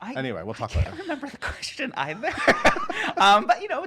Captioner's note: laughs; giggles